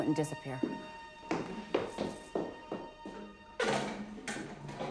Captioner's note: footsteps tapping